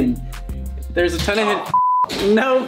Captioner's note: beep